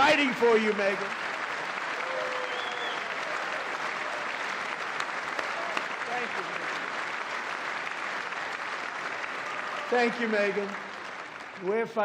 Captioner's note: applause